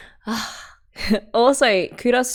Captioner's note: swoons